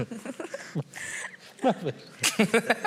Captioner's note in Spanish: todos ríen; todos ríen